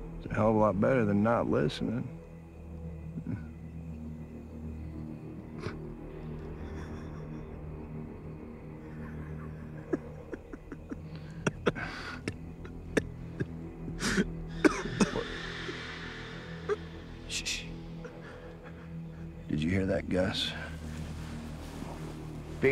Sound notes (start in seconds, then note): 5.8 laughing; 13.8 coughing; 17.3 shushing